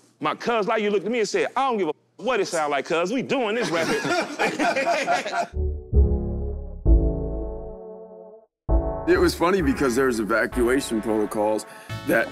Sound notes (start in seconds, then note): 3.6 all laugh; 6.3 smooth hiphop music